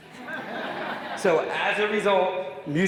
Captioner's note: audience laughing